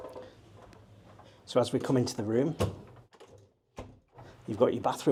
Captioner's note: door clicking